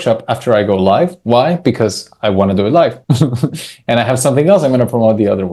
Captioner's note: laughs